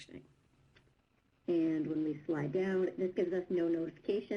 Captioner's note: voiceover